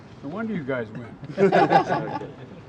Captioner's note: laughter